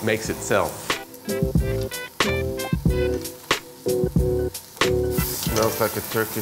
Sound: veggies sizzling; upbeat music

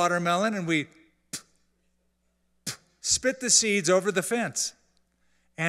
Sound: spits

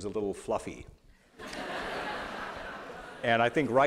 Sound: laughter

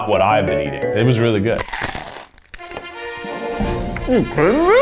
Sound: crunching

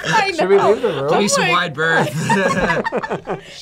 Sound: laughs; both laugh

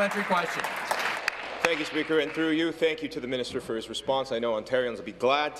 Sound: applause

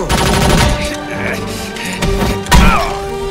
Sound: officer grunting; guns firing

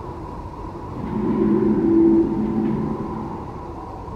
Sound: distant call

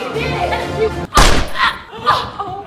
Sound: gun shot

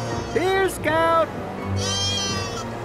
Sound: bleating

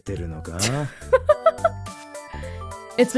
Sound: chuckles

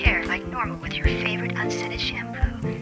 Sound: sexy female robo caller

